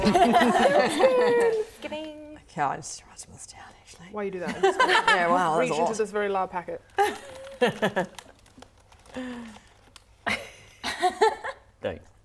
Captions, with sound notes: Rumpelstiltskin Skiding Okay, I'm just writing this down actually While you do that I'll just reach into this very loud packet *crinkle* Thanks